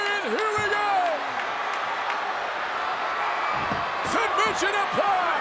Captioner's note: crowd cheering